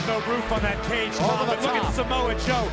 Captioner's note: crowd cheering